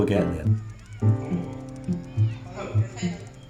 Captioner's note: group voices